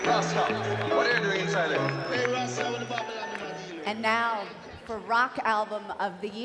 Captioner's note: applause